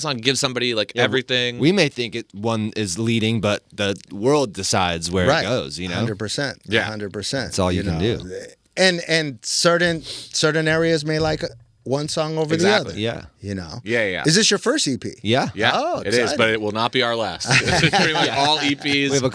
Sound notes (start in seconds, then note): 17.4 laughing